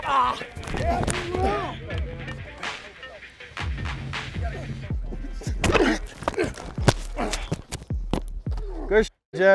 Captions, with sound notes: [grunting] - Good sh--, Jes. Appreciate y'all.